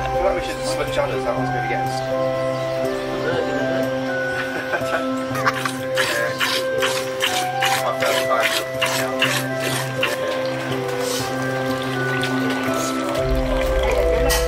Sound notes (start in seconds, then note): 5.6 milk pours